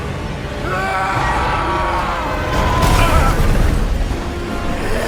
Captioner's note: screaming